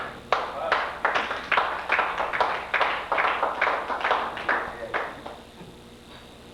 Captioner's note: applause